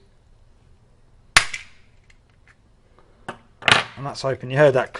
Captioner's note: pop